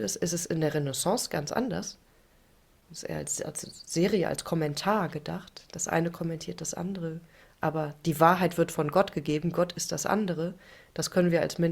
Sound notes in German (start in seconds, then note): none